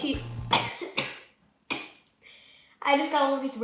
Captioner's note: coughing